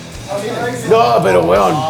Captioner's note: screams